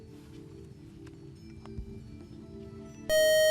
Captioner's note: buzzer